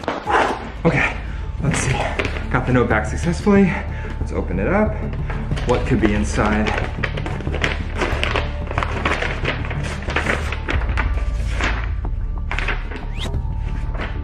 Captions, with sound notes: (exhales) Okay! Let's see. Go the note back successfully, let's open it up, what could be inside? (envelope crinkling) (suspenseful music) (paper crinkling)